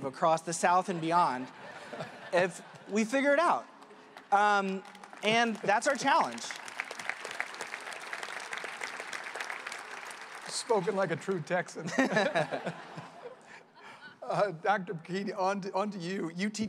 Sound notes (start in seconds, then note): 6.3 applause; 11.8 laughter